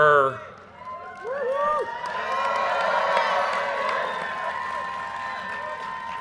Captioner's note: audience cheers and applause